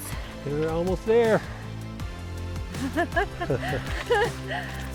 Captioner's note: both laughing; upbeat music